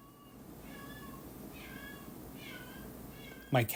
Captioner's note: distant Meowing